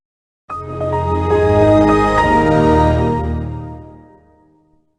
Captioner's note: Windows XP Startup